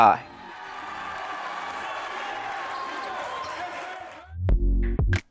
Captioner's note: audience cheering; upbeat music